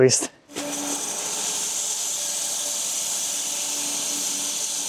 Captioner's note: log saw whirring